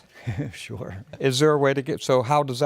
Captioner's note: laughs